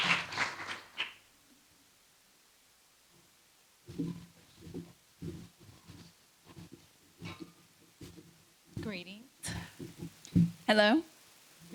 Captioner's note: applause